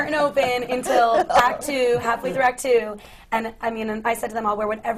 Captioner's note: laughter from the panel